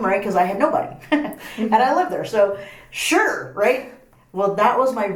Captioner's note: laughs